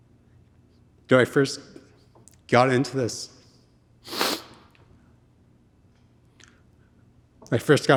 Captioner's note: sniffles